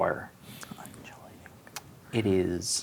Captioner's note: whispers